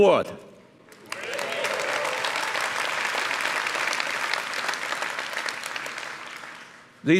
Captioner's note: cheers and applause